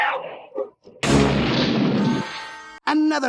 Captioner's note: crashing